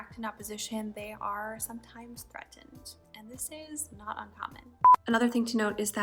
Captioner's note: beep